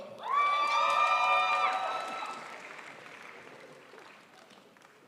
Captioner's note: crowd applauds